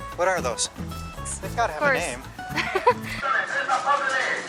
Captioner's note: laughter